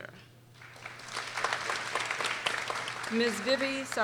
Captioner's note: people applauding